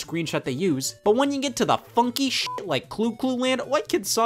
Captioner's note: beep